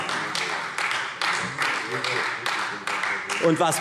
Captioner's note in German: Beifall Freie Demokraten